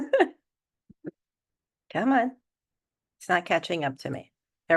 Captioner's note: laughter